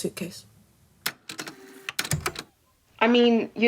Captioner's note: the tape player starts